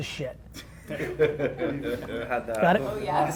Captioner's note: laughing